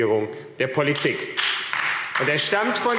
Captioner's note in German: Beifall AfD